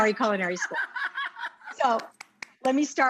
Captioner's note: Rachael laughs